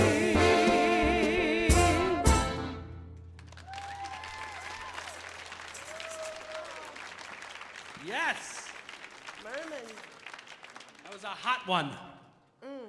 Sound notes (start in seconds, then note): 3.3 audience applauding; 3.5 audience cheering